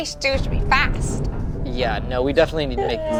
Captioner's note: metal creaking